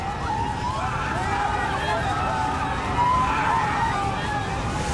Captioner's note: passengers screaming